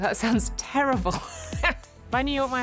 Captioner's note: laughs